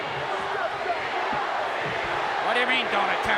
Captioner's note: audience cheering